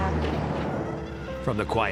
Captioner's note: horn honking; engine roaring